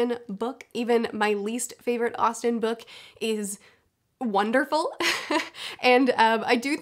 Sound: chuckles

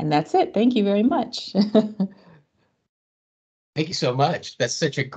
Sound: laughs

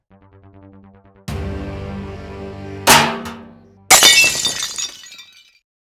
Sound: break and shatter

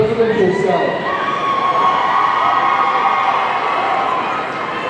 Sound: audience cheering

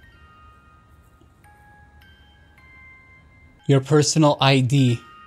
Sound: gentle chimes

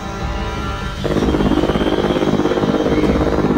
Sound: plain Noises

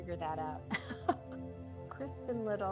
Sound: laughs

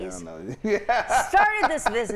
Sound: laughing

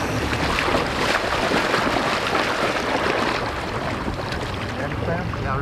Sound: water splashing

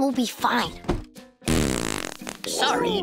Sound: farting; chuckles

